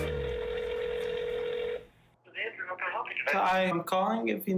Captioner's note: phone ringing